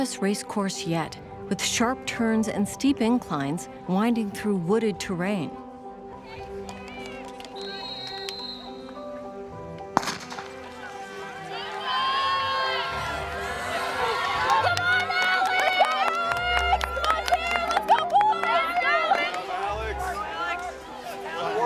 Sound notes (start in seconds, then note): 6.3 racers chattering; 7.5 whistle tweeting; 10.0 gun bangs; 11.6 crowd cheering; 18.6 crowd clapping